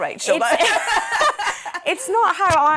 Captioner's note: laughing